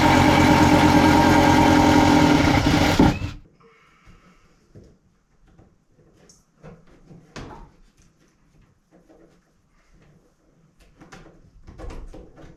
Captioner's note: drilling